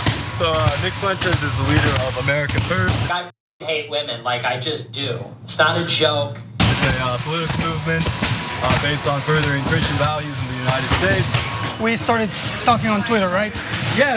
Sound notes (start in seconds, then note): none